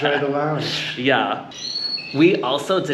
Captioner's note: laughs